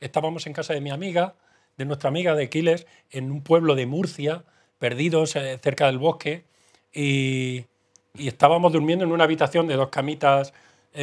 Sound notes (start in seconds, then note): none